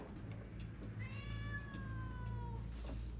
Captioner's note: cat meows